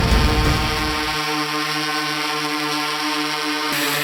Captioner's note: drone buzzing